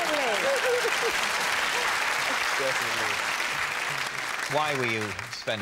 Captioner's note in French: applaudissements